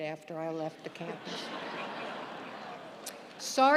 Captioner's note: audience laughing